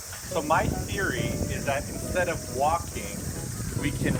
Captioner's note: none